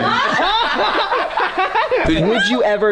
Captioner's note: laughter